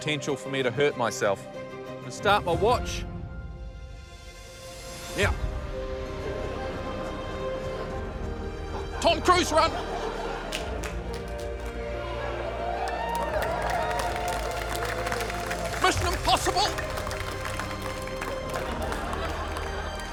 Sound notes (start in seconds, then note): 11.2 laughter, applause, cheering; 18.0 applause